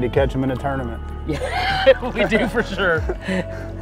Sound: laughter

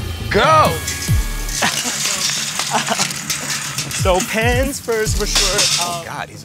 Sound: laugh

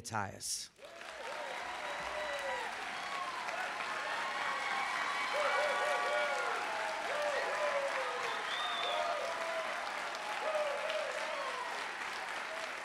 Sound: applause and Cheering

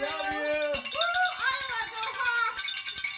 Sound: bells ringing

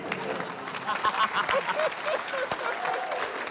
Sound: laughs; laughter, applause

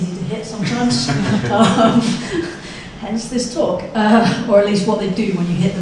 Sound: laughing

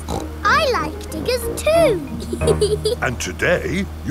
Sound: snorts; laughs

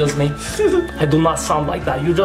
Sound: laughs

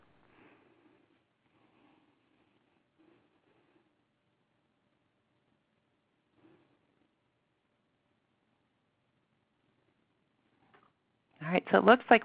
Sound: silence

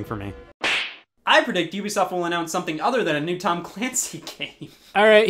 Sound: starts laughing

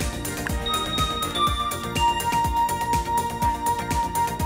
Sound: dinging noises

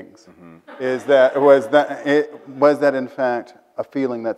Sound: audience laughs

